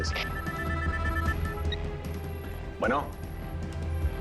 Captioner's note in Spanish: Suena el celular